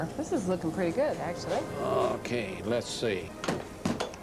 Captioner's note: clunk